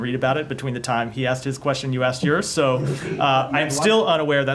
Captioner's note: laughter